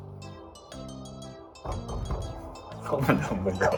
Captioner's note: hitting the spanner